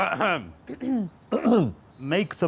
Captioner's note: clears throat